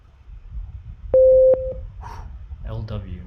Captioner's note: high tone beeps